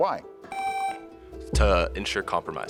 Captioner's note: tone sounds